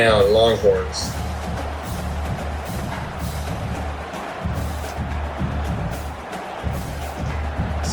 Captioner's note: crowd Noises